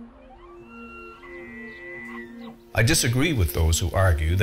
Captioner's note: elk Bugle